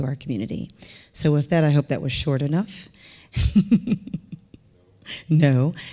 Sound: chuckling

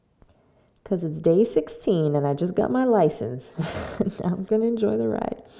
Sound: laughs

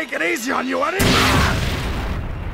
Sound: aagh

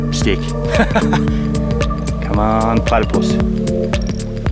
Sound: laughs

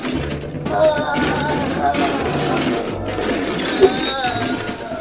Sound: loud moaning

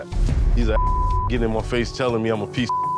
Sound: beep; beep

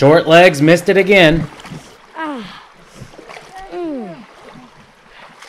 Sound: groans with pain

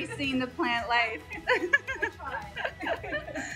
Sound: both laugh

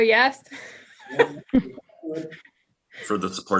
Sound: laughing

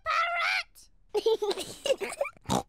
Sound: kids giggle

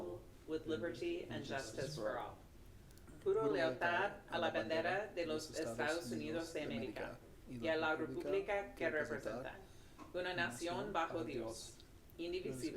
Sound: speaking spanish

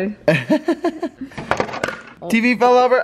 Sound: laughs

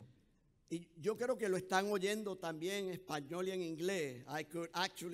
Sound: speaking in foreign language

